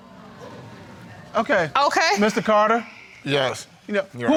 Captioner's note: audience exclaiming; sighs